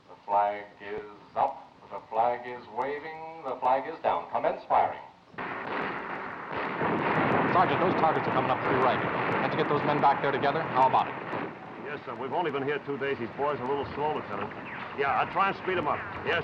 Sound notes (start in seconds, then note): 5.7 guns firing